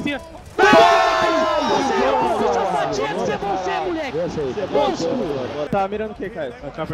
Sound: Furia’s team celebrating the round won

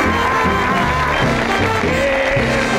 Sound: audience clapping

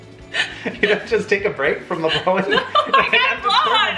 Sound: laughs

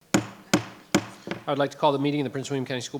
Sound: gavel knocks

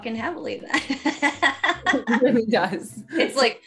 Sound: laughing

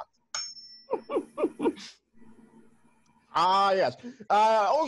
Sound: tuning fork dings

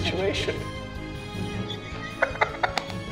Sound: laughs quietly

